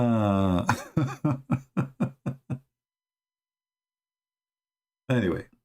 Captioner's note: Ketawa